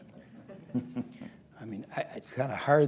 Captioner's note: laughter